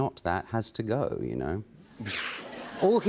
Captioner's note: laughter